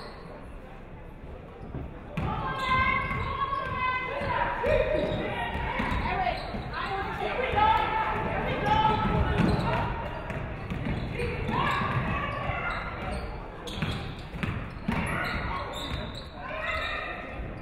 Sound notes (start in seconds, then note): none